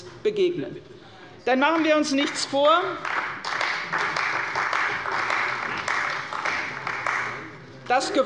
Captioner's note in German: Beifall bei der CDU